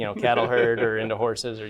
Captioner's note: laughter